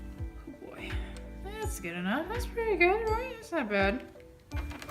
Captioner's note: mumbles